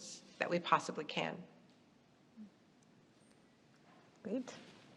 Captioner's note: none